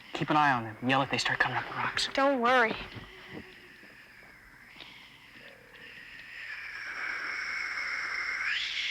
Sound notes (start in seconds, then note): 4.9 Sleestak hiss